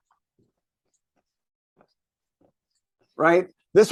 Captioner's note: marker squeaking